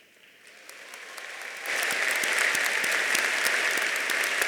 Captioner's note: audience applauding